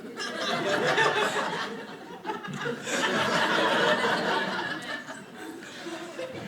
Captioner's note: audience laughing